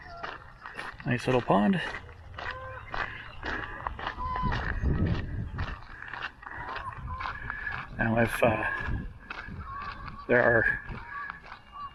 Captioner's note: geese honking in background